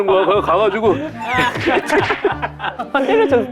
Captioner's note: slapping